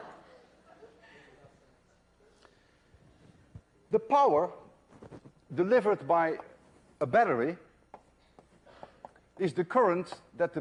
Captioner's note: laughter